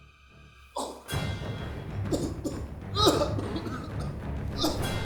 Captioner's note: David thudding to floor and coughing; David groaning fearfully